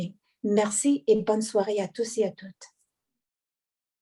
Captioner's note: speaking French